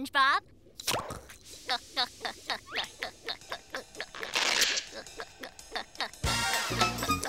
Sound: gulping

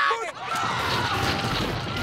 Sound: screaming

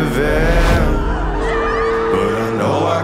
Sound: screams

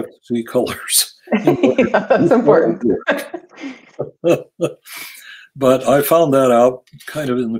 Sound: laugh

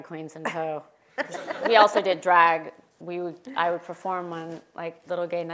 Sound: laugh

